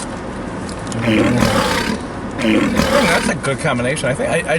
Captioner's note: growling